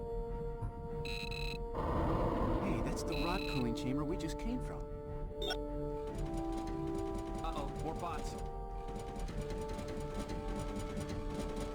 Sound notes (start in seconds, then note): 0.0 beeping; 5.4 beeping; 10.3 dramatic music